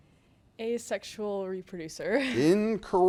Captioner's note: laughs